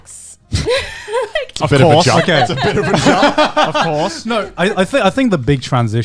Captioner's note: laughing